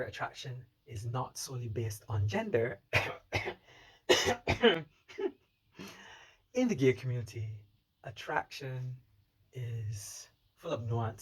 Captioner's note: cough